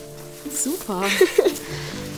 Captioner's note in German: lacht